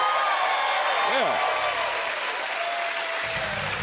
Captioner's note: cheers and applause